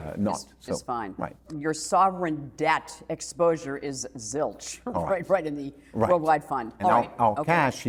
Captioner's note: laughs